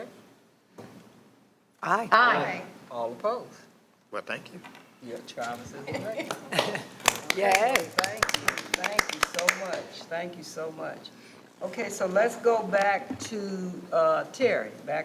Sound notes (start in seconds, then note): 6.2 all applauding